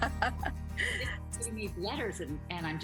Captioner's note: laughs